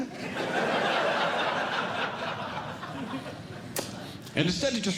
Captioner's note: audience Laughing